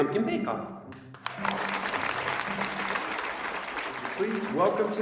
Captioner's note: audience clapping